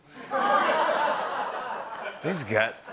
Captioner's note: laughter